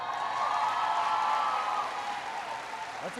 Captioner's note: applause